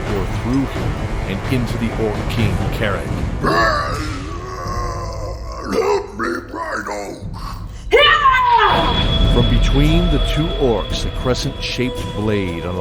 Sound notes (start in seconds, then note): 7.9 cries for help in pain